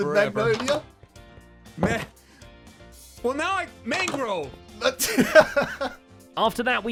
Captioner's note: laughs